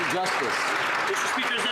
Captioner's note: some Applause